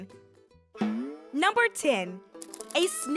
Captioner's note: image boings